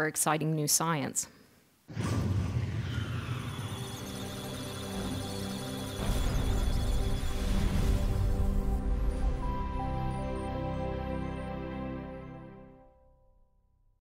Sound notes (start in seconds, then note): 2.9 electronic Sounds of Data; 3.3 musical Tones